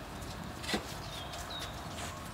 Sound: birdsong

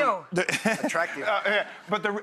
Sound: Dr. Ian laughs

